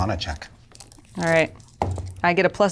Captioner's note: dice rattle